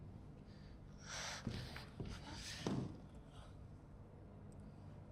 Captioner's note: breathing heavily